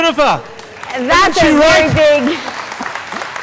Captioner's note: applauding